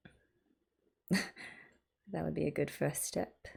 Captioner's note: laughs